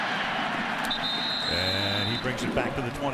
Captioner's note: whistle blows